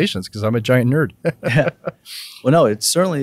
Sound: laughs

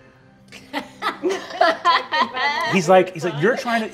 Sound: all laughing

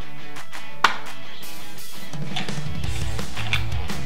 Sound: gentle popping

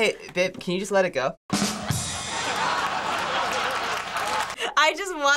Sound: ba-dum-tss; canned laughter

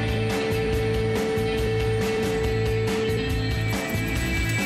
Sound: helicopter blades spin

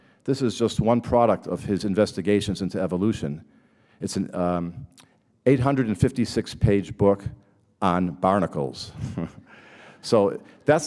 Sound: laughter

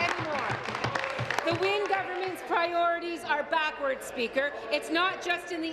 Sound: applause

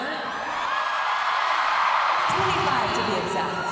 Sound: crowd cheering

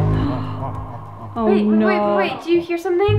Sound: gasping

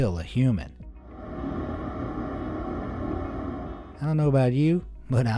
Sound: horns blare

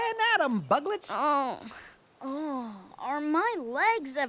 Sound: sighs

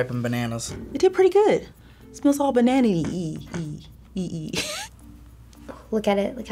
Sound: laughs

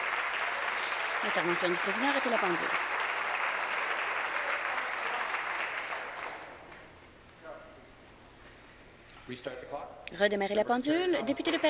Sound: applause

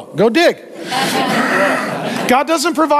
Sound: congregation laughing

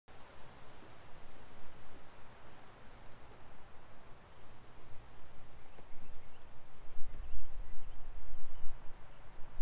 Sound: birds chirping, wind

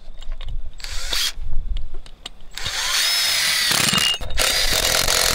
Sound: electric screwdriver buzzes

